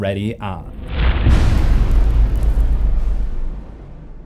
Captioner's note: impact